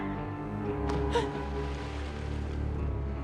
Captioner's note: lady screaming; water splashing; gasps